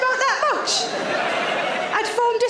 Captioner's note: audience laughs